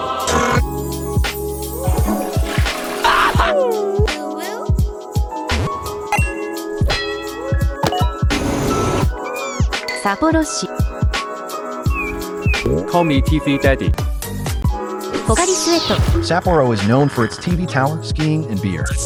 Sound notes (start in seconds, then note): 3.0 toilet scream; 3.4 cute hum; 5.4 Pokémon SFX; 9.3 welcoming squeak